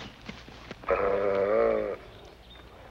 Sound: growling

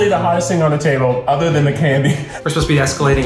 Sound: laughs

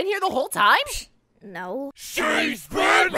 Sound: pssh

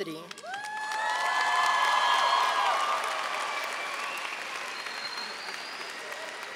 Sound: audience cheering and applauding

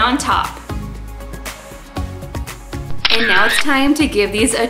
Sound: camera shutter

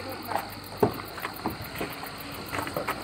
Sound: car door open sound

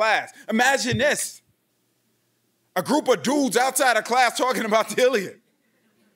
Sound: chuckles

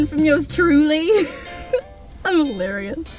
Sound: laughs

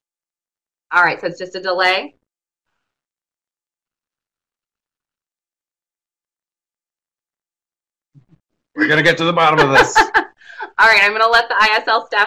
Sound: brief silence

